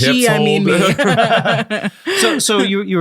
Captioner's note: all laughing